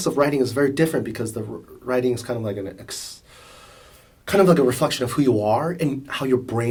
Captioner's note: sighs